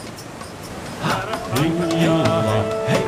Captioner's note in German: Rauschendes Wasser